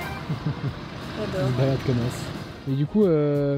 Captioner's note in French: rire